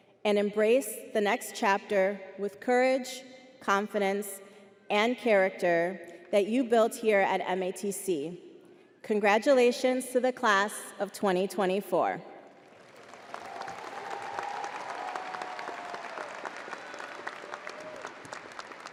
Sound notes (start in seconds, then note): 12.5 crowd applauding